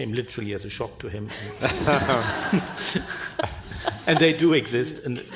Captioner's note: panel and audience laughing